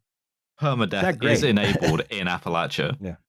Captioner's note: announcer voice